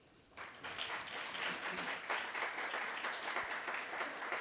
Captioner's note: applause